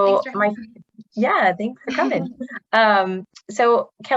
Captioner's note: laughs